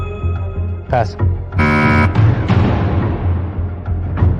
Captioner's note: buzzer sounds